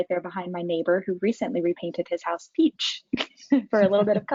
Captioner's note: chuckles; laughs